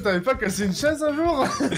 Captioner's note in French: Rigole